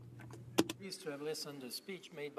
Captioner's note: speaking French